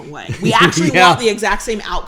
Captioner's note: laughs